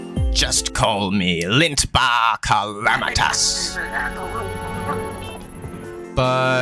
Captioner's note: evil laughter